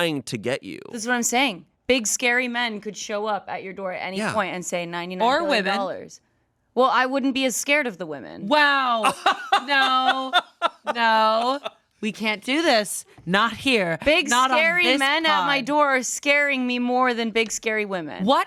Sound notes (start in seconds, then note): 9.0 laughs